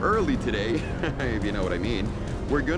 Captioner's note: laughter